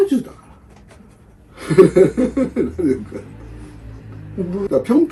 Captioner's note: laughs